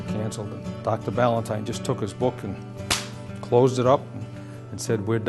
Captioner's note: clap